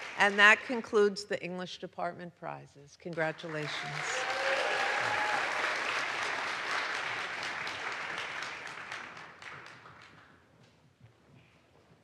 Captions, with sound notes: And that concludes the English Department Prizes. Congratulations. (audience applauds) (audience cheers)